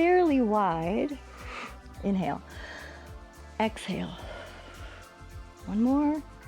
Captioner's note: inhales; exhales